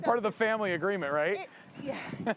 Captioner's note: laughing